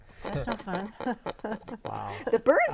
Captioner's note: laughing